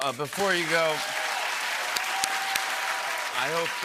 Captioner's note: applause; cheering and whistling